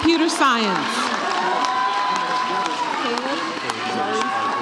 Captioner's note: audience cheers